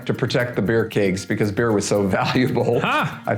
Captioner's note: laughing